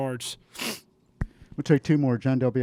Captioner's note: sniffs